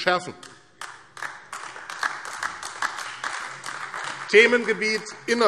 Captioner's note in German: Beifall AfD